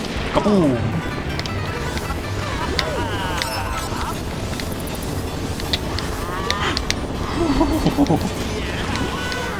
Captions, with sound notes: Kaboom! [Gasp] Ohuhuhuhu...